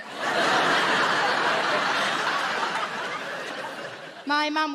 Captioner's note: audience laughing